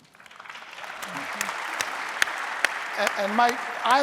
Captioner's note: audience applauding